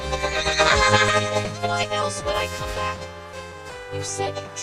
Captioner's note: whinnying